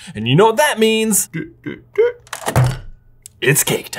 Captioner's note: exclaiming